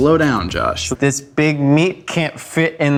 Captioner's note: speaks very slow and deliberate